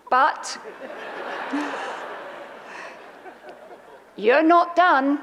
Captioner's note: audience laughs